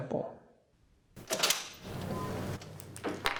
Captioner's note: creak